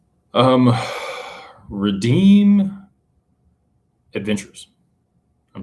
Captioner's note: sighs